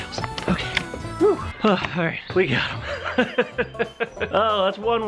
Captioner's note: laughing